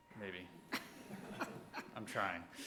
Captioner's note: laughing